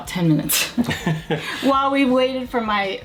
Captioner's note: both laugh